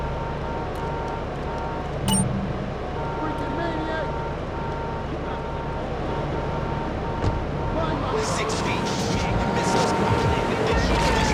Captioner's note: tires screech